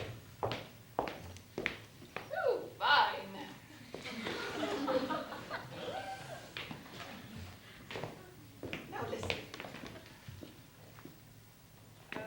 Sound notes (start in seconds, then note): 4.0 laughter